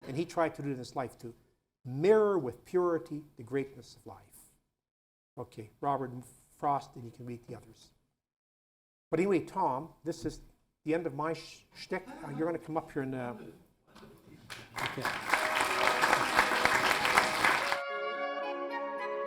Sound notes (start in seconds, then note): 14.4 applause